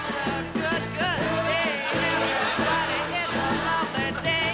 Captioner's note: audience laughing